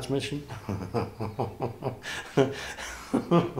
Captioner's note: laughs